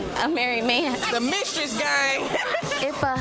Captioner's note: laughs